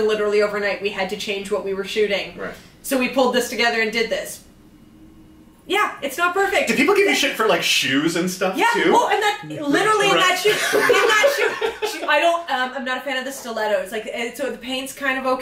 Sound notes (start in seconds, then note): 10.0 laughing